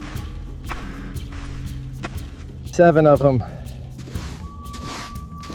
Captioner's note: instrumental music plays; footsteps crunch; instrumental music plays